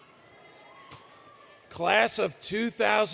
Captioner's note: cheering; indistinct Chatter, Cheering